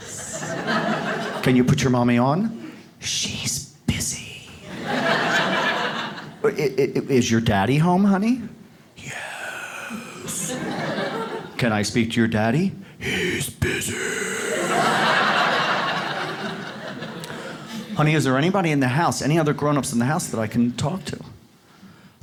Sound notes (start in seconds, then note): 0.0 whispering; 0.0 audience laughs; 3.0 whispering; 4.6 audience laughs; 9.0 whispering; 12.9 whispering; 14.4 audience laughs; 22.0 whispering